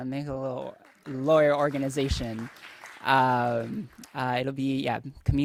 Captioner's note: audience applauding